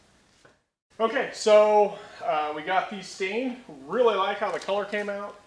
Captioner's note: voiceover